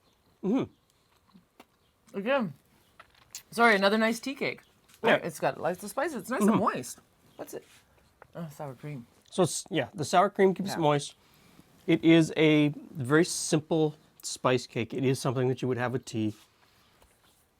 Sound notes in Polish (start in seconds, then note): 0.8 przeżuwa